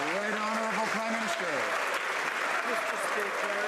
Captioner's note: some Applause